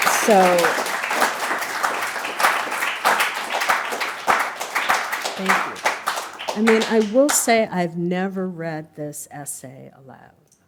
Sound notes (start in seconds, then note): 0.0 applause